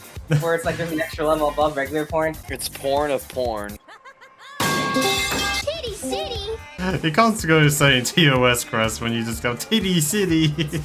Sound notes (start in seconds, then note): 4.6 metal Pipe Falling SFX; 10.0 laughs